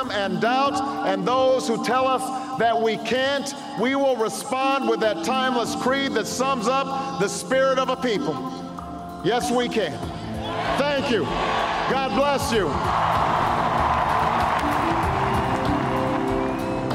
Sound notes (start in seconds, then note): 14.3 crowd cheering; 16.2 upbeat music playing